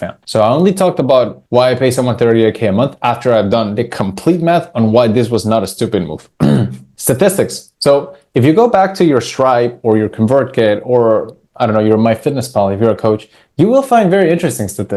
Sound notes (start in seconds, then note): 6.4 clears throat